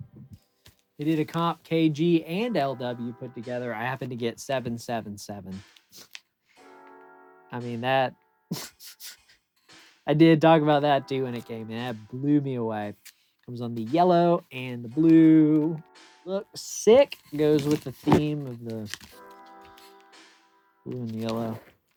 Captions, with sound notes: They did a comp KG and LW put together. I happened to get 777. I mean, that (laughs) I did talk about that, too, when it came. That blew me away. Comes on the yellow and the blue. Looks sick. Goes with the theme of the blue and yellow.